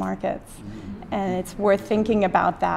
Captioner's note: audience: mmmm